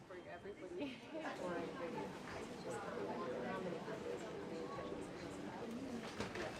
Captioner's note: chatter